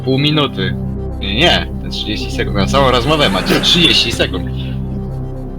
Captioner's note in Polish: śmiech publiczności